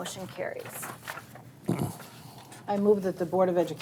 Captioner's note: board member clears throat